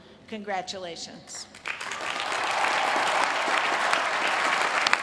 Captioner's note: applause